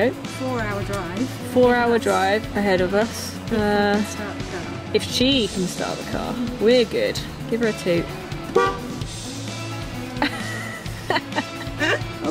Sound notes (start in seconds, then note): 8.4 toot; 10.1 laughs